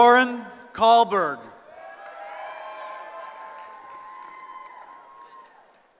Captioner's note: cheering